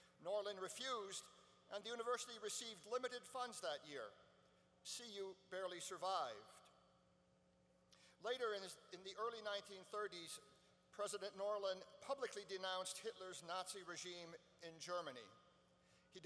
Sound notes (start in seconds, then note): none